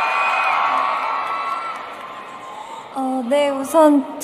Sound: clap

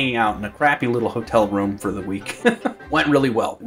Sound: chuckles

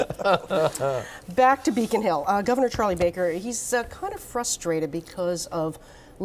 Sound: laughter

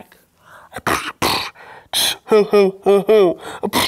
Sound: beatboxes

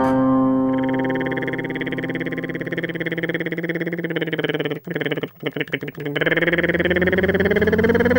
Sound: tongue rolling mimicking a motor

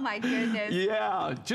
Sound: laughter

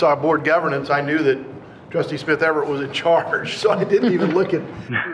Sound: chuckles

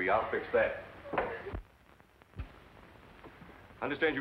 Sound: sobs

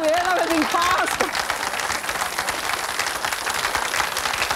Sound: audience claps

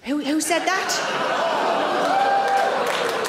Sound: audience groans; audience claps

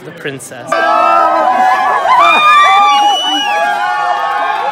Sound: crowd cheering

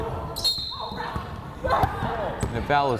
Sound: whistle blows; player shouting

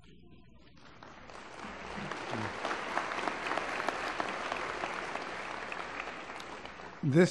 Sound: applause

